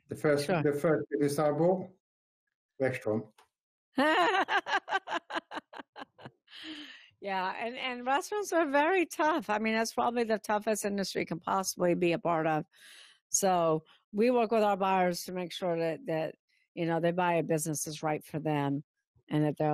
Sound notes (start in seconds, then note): 4.0 laughing